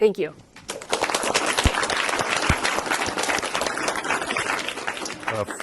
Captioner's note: applause